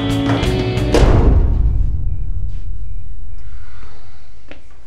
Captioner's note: metal clanking